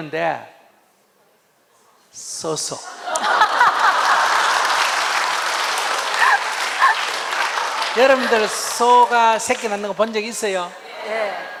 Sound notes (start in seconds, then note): 2.9 audience Laughter